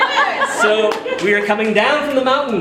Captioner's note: audience laughing